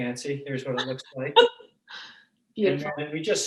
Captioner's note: laughing